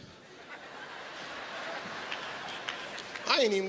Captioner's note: audience laughs